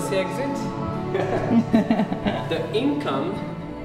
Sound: laughing

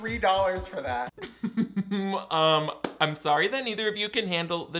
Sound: chuckles

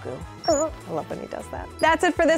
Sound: coos

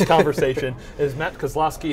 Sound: laughs

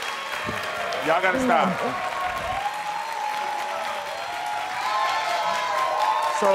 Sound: crowd cheering

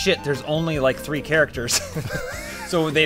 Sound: wheeze laughs

